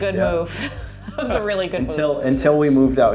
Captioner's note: laughs